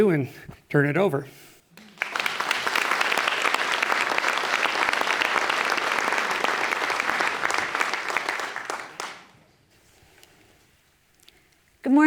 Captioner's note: applause